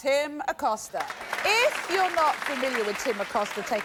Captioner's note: audience applauding